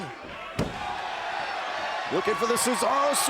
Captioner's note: Zayn thuds